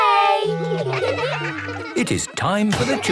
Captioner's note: children giggling